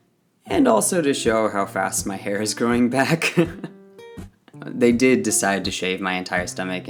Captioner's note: laughs